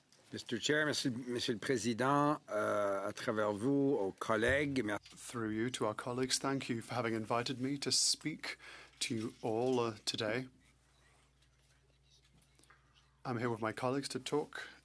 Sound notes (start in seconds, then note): 9.4 speaking French